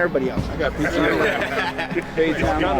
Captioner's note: players are lalughing